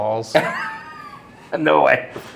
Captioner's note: laughing